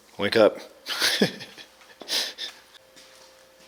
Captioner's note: laughs